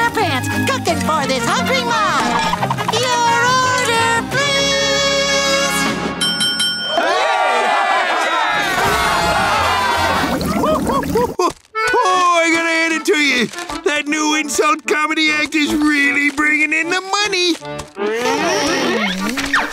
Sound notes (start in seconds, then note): 6.2 bell ringing; 6.8 cheering; 10.0 chuckling